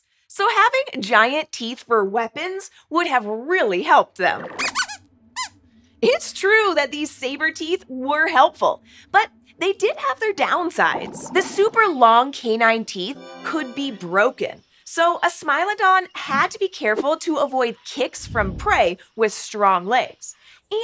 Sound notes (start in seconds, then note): 4.6 squeaks squeaks